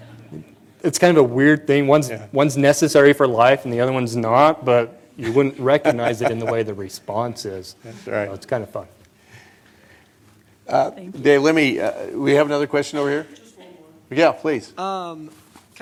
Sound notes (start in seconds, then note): 5.2 laughter